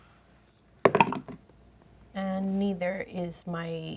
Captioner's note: dice thud